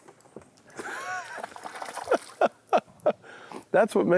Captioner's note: laughs